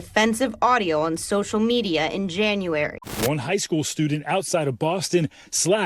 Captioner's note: static